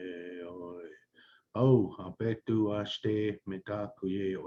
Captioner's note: non-english speech